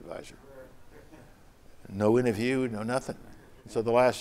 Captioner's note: laughter